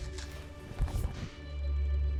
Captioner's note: woosh; bites apple